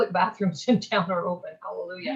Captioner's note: laughs